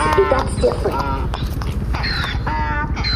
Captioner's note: braying